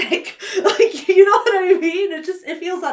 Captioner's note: laughs